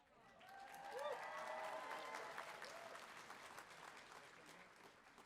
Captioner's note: audience cheering